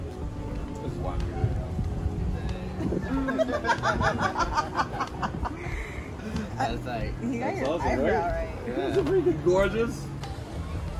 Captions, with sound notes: [laughter] he got your eyebrow right it's awesome right? yeah gorgeous